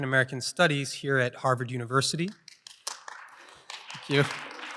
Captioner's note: applause